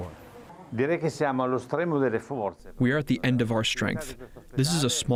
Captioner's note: through translator